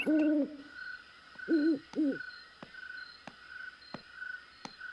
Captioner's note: owl hooting